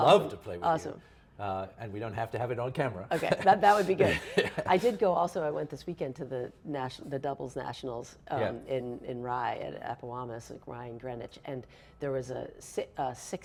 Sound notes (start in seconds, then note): 3.2 laughs